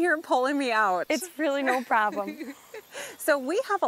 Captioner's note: laughing